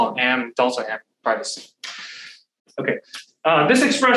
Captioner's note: faintly speaking